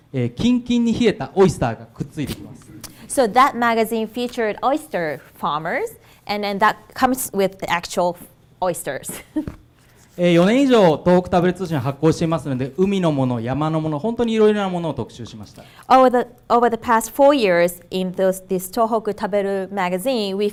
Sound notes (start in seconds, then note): 10.5 speaking foreign language